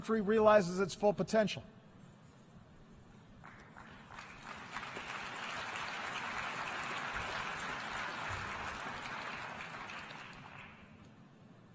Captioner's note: applause